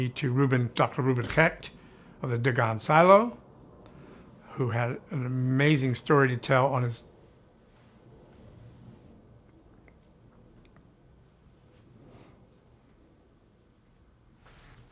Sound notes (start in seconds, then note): 7.7 pause